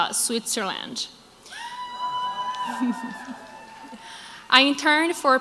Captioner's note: crowd applauds